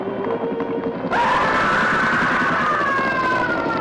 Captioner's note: scream